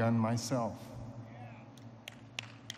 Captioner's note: applause